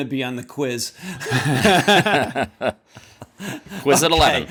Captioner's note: laughter